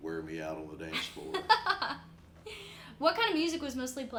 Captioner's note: laughs